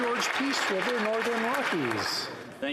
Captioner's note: some Applause